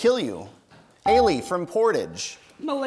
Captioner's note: bell rings